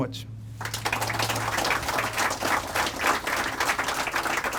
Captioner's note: crowd applauding